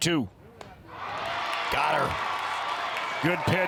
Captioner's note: crowd cheers